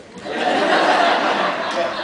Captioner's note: laughs